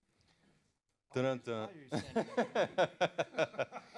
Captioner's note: laughter